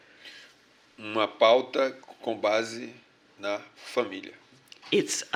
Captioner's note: speaking portuguese